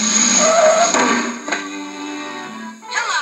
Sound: crash

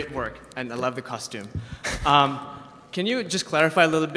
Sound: laughing

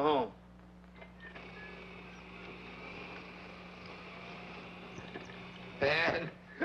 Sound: electric wheelchair motor whirring

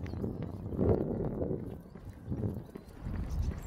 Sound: wind blowing

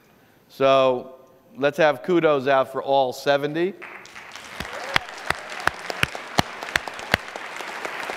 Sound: applause

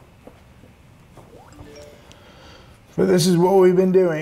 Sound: phone chimes

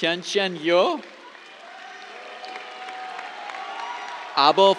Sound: cheers, applause

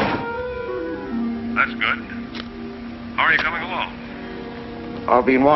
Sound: on phone

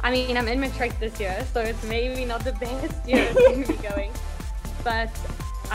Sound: laughs

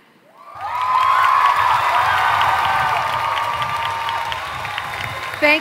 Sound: applause

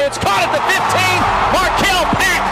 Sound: crowd cheers

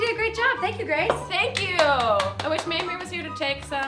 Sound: claps

